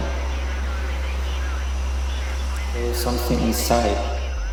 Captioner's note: crickets chirping